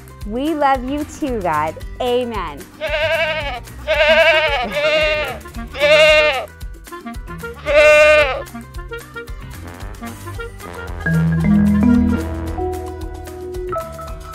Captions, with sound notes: We love you too God Amen. (sheep bleating) (flute trill) (upbeat music)